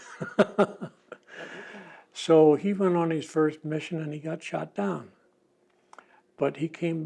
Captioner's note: laughs